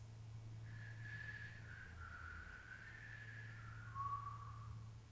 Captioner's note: artist whistling